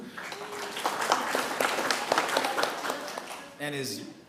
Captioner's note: attendees clapping